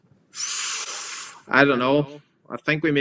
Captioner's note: inhales sharply